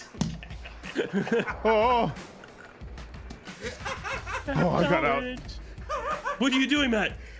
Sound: dying in the back

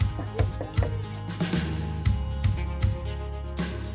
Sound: knocks on door

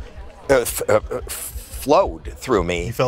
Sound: stutters

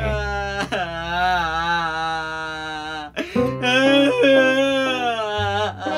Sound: crying loudly

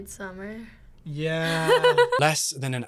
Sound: laughs

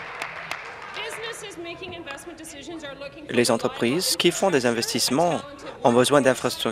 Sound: some applause

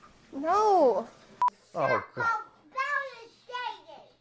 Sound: kids yelling

